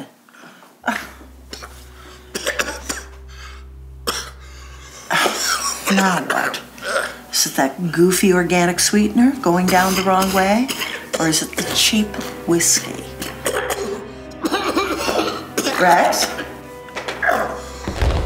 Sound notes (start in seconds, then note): 2.5 coughing; 14.3 coughing